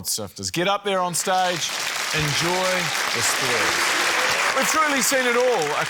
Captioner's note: cheering, applause